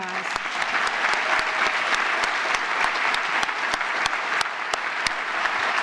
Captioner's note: applause